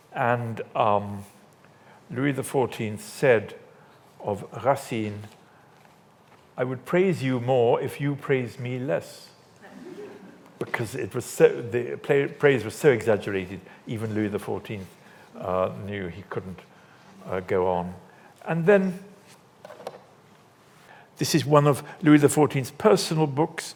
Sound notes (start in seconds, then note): 9.6 audience laughs